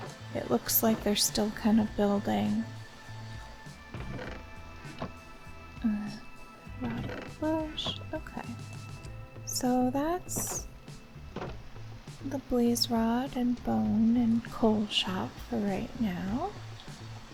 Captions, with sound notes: Looks like they're still kind of building. [quietly] Rotted flesh... okay. So that's the blaze rod, bone and coal shop for right now.